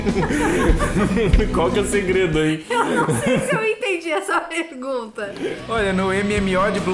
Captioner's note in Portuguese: risadas